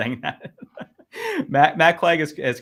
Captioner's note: laughs